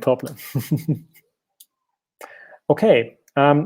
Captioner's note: laughing